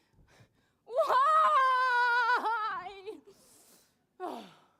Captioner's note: screaming loudly